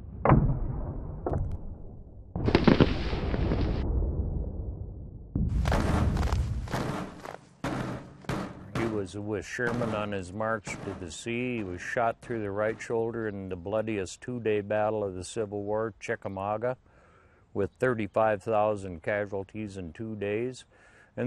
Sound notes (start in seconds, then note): 0.1 cannon fires; 2.4 rifles firing; 6.7 snare drums, marching